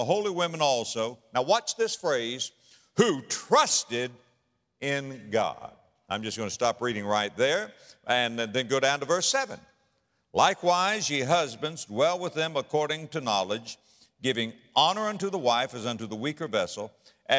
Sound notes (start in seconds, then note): none